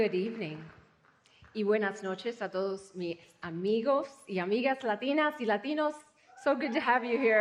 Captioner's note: speaking spanish